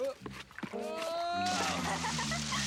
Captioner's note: Edmund shouts; water splashes; Caddie laughs